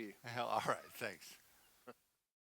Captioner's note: chuckles